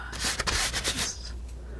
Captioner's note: tapping